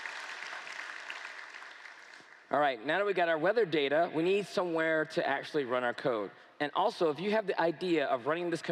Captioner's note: cheers & Applause